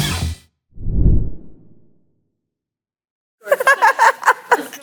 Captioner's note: logo whooshing; people laughing